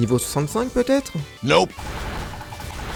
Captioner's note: Sound from Team Fortress 2